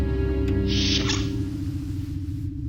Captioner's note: doors open